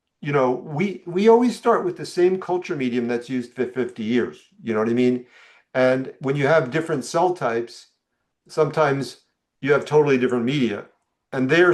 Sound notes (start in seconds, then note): none